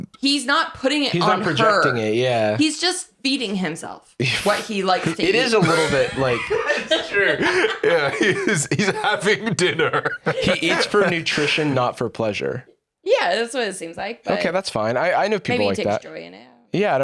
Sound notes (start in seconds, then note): 7.2 laughing